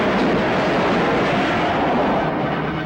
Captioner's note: truck thuds away barricades; truck whizzes